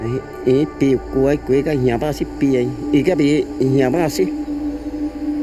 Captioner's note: speaking in foreign language